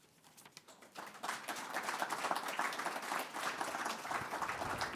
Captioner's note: audience applauding